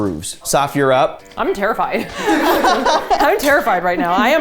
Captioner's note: everyone laughing